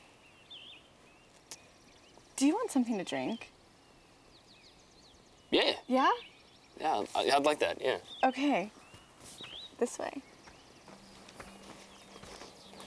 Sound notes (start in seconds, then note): none